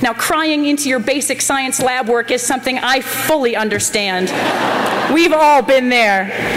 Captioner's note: laughter